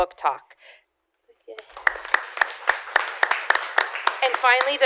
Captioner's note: applause